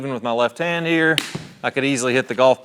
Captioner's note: golf club hits golf ball